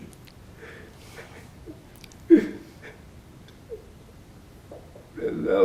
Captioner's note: crying